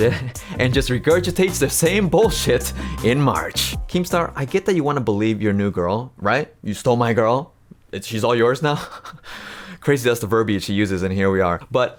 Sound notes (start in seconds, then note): 0.0 chuckles; 9.3 laughs